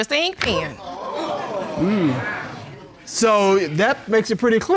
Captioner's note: audience exclaiming